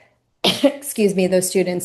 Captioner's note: coughing